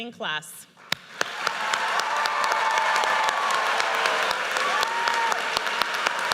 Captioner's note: audience cheers and applauds